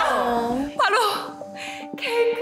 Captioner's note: inhale